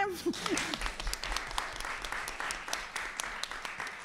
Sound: clapping

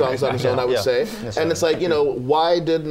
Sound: laughter

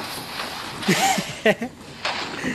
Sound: evil laugh

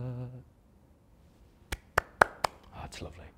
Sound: claps

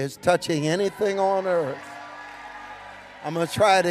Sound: congregation cheering

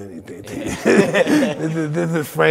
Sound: both laughing

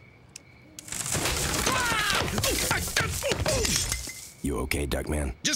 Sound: <i>Duckman yelling and grunting</i>

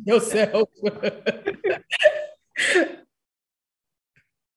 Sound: laughs

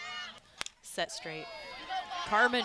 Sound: ball hitting bat

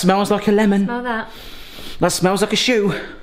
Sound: inhales

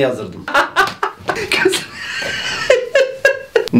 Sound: laughter

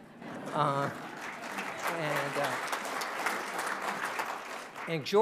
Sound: audience applauding

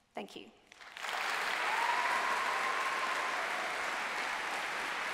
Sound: applause

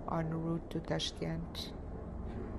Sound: russian

